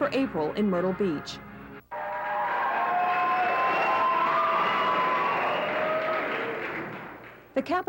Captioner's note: applause